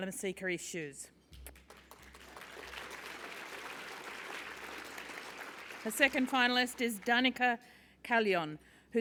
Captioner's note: applause